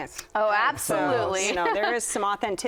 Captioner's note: laughs